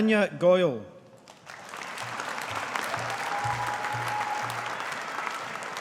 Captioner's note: audience applauding